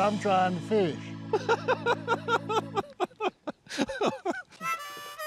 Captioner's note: laughter